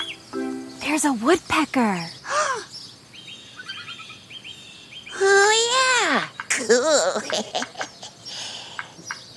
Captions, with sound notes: - There's a woodpecker. - (gasps) Oh yeah, cool (giggles).